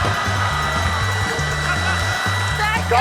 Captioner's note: laughter